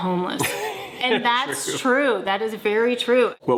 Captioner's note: laughs